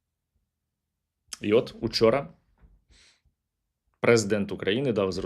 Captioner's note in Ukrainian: сопіння